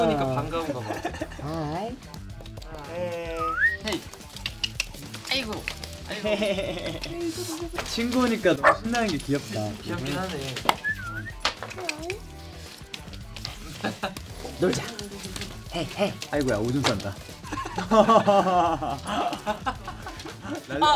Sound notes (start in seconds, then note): 6.0 chuckles; 17.2 members laugh